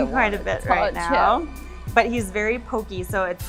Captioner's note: under her breath